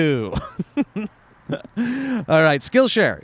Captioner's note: laughs